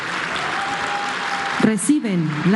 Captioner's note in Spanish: aplausos